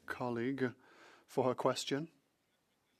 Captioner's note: speaking French